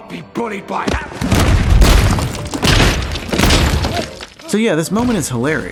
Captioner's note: smashing